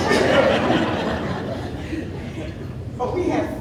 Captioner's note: audience laughing